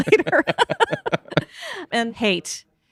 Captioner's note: laughing